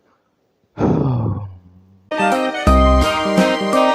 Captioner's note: sighs